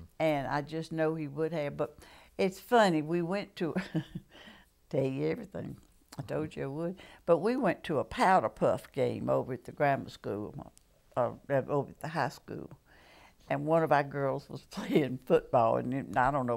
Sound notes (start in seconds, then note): 3.7 laughter